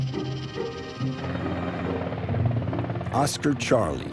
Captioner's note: blades whirring